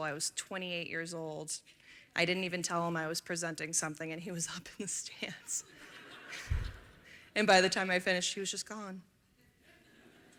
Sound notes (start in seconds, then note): 5.6 laughter